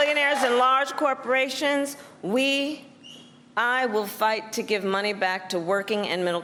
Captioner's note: cheers and applause